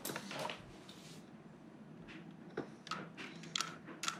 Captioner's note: trains knocking together